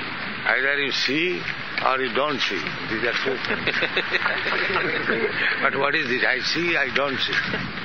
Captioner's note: laughter